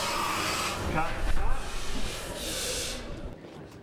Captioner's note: hissing Stops